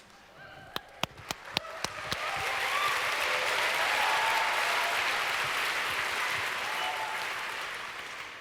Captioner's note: audience cheers